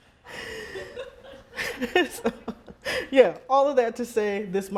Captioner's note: laughing